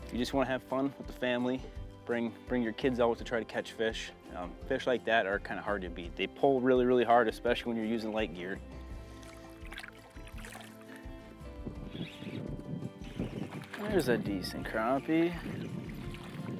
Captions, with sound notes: You just wanna have fun with the family, bring your kids out to try to catch fish. Fish like that are kind of hard to beat. They pull really, really hard, especially when you're using light gear. (water splashing) (fishing rod reeling) There's a decent crappie.